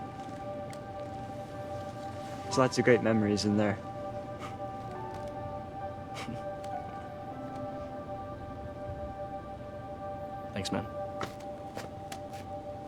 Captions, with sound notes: There's lots of great memories in there. [Joey chuckles] Thanks, man.